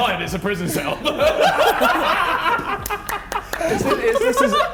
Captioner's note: men laughing